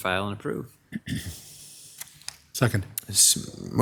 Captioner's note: clears throat